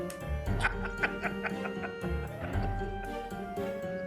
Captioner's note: laughter